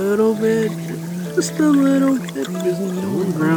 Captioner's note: Tinkatink Gurgling